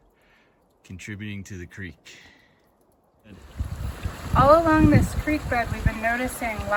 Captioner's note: water noises